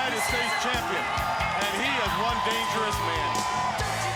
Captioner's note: audience cheering; upbeat music